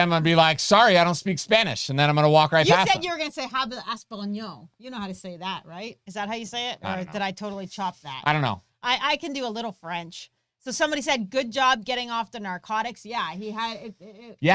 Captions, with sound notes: Then I'm going to be like, sorry, I don't speak Spanish and then I'm going to walk right past them. - You can said you're going to say (speaking in foreign language) you know how to say that, right? Is that how you say it? - I don't know. - Or did I totally chopped that? - I don't know. - I can do a little French, so somebody said, "good job getting off the narcotics." Yeah. He had it.